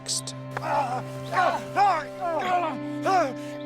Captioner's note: man yells out